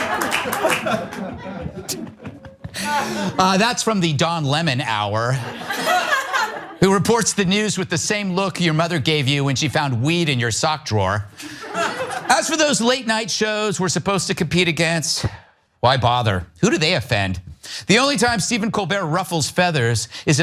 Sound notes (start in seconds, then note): 0.0 laugh; 5.4 laugh; 11.5 laugh